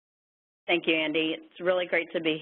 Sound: voiceover

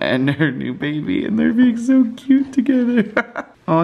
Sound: laughs

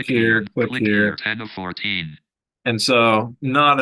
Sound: jaws speaking in background

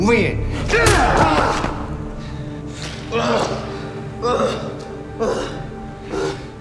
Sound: Douda grunting; man groaning; tense music continues

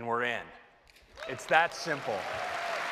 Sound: applause

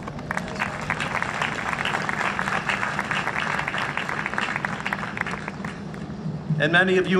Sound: applause

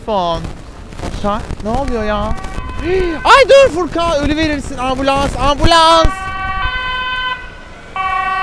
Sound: gasps

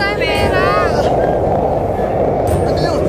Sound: wind blowing; Alex grunts

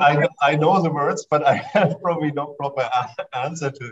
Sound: laughter

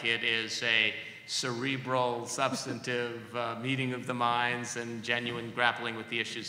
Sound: laughs

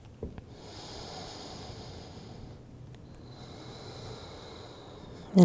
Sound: inhales and exhales

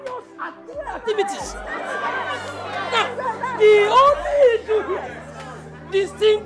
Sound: shouts

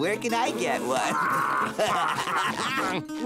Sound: laughing

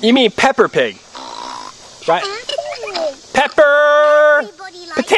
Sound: voiceover

